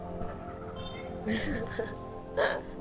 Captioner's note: laughs